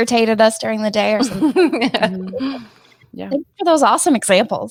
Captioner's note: laughs